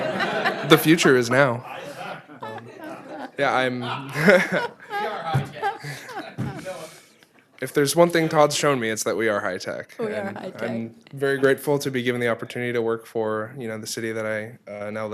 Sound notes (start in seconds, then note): 2.7 laughing